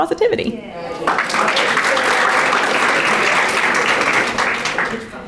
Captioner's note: audience applauding